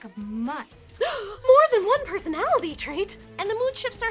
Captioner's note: gasp